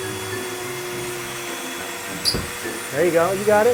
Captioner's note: Dremmel buzzing